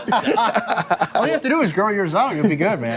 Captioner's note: laughter